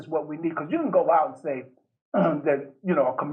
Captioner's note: coughs